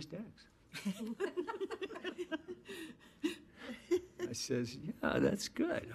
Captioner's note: women laughing